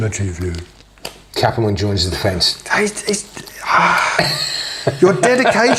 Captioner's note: exasperated sigh